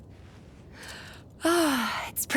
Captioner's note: sighs